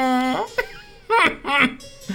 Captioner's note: laughing